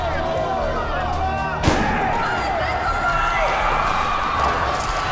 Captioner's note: gunshot bang; crowd screaming